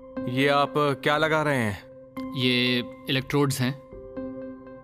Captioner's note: speaking mandarin